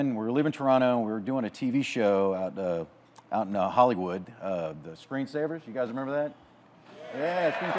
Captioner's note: audience claps